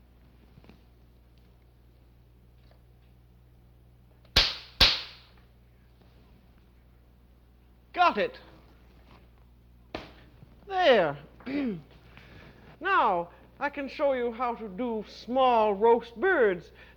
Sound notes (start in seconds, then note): 4.3 gun pops